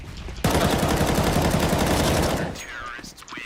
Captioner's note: gunshots ring